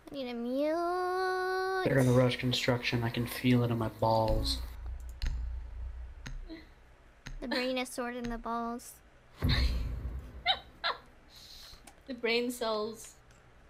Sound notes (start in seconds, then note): 10.4 laughing